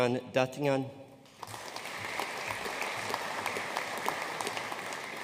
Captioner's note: audience applauding